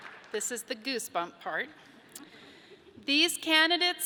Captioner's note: audience laughs